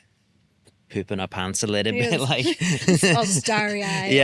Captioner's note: laughs